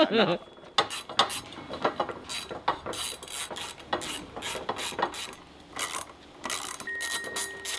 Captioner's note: laughing; metal clanking